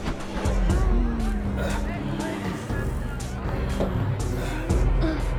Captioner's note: people moaning